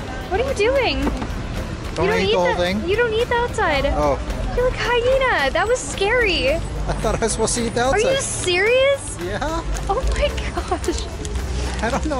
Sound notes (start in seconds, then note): 10.4 laughs